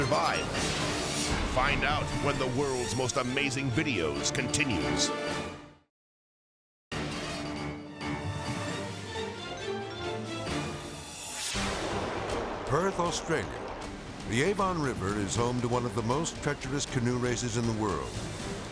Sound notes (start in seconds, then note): 0.2 air whooshes; 6.7 intense music; 11.0 air whooshes